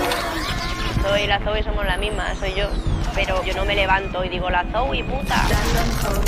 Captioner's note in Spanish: voz en off